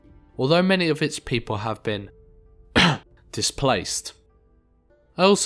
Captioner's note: cough